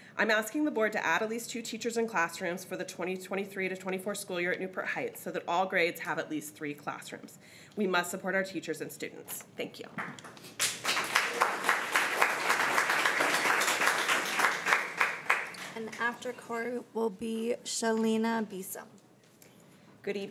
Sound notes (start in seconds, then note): 10.0 crowd clapping